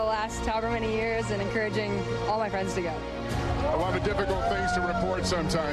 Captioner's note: cheers and applause